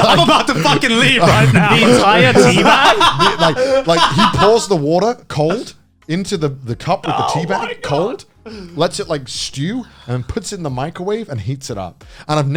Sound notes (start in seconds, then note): 0.0 laughing